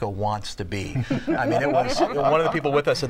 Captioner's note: laughter